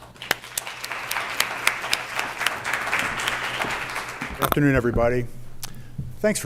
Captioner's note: applause